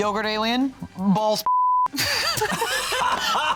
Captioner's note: beep; all laughing